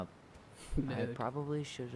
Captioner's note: laughs